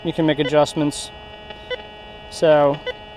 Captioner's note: detector beeps